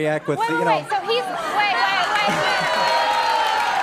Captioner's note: applause